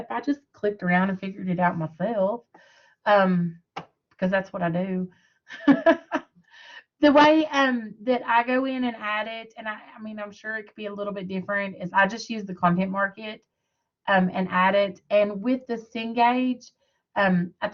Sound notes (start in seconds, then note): 5.5 laughter